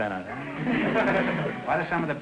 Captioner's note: audience laughter